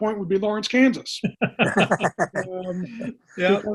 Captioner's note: laughing